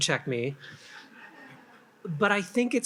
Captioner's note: attendees laugh